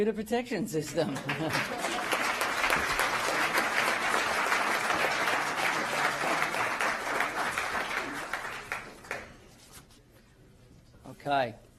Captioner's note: applause